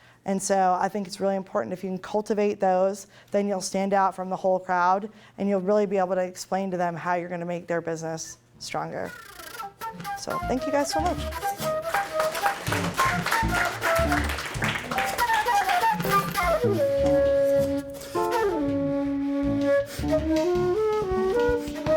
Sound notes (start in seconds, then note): 11.4 applause; 17.0 closing music